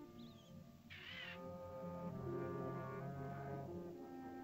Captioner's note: birds chirping; soft ominous music; bird squawks; soft ominous music